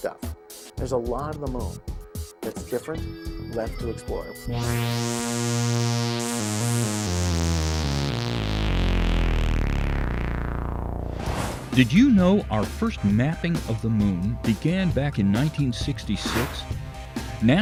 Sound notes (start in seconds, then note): 4.6 sound Effects